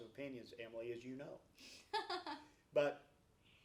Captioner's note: laughs